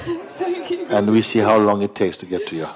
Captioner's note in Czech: smích